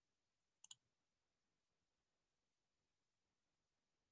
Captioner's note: mouse clicking